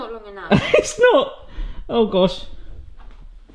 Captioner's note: laughs